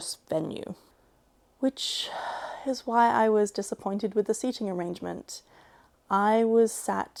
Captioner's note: sigh